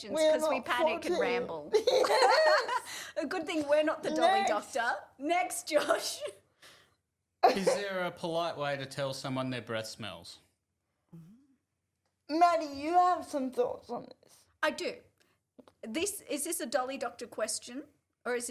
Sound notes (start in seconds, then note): 0.9 laughs